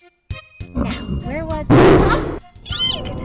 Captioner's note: evil laugh